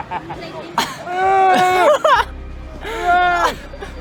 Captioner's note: laughter